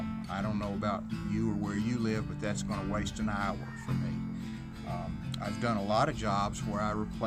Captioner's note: neighborhood noise